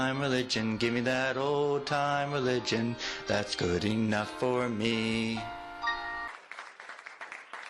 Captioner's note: applause